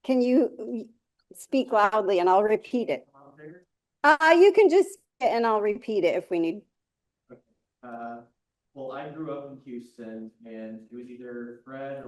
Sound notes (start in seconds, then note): 4.1 speaking faintly